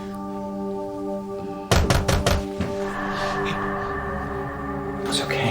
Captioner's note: Knocking